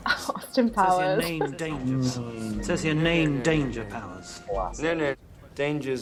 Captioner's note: chuckles